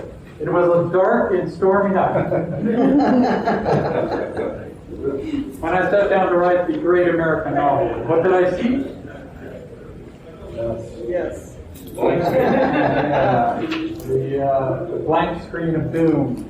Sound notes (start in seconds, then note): 2.1 laughter; 12.0 audience "yes" and murmuring